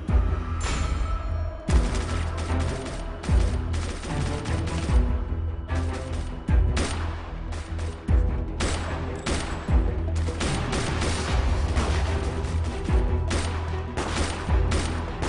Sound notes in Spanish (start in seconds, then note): 3.5 Disparos